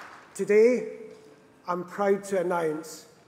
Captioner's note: applause